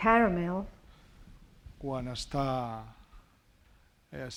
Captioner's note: speaking spanish